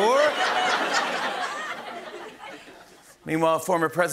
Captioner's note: laughter